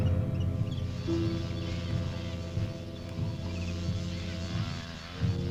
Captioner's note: muffled wasps buzzing